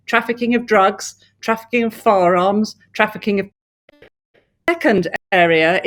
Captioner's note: audio distorts